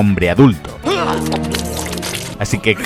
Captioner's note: vomits profusely